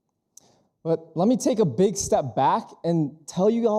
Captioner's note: none